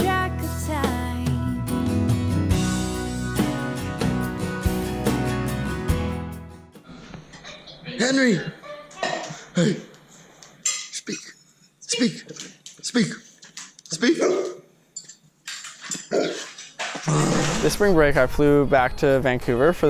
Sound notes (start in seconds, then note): 8.2 male Voice; 14.4 barking dog